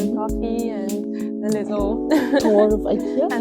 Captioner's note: laughs